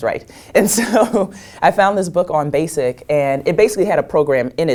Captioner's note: laugh